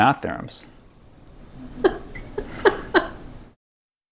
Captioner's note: laughter